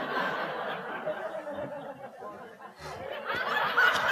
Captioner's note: laughter